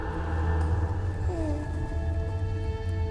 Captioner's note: baby cooing